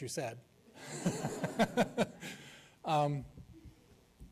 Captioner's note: laughs